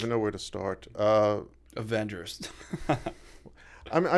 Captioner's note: chuckle